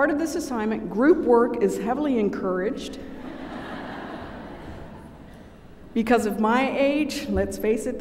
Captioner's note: laughter